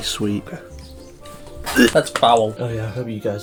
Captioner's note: gags